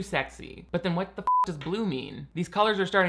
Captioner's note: beep